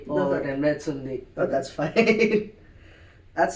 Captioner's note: laugh